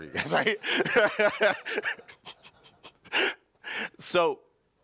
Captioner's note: laughing